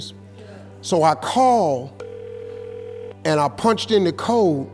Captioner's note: phone ringing